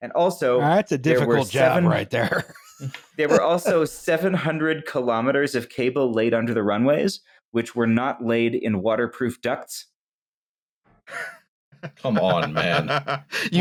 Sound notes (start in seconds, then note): 3.2 laughs; 11.8 chuckles